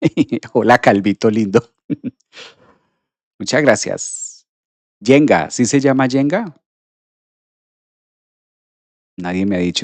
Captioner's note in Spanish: resoplido